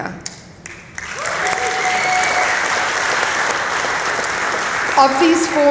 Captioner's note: applause